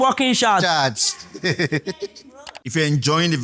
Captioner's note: laughs